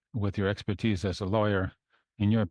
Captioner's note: speaking in French